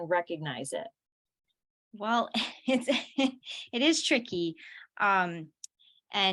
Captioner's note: laughter